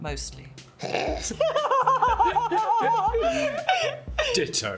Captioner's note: laughs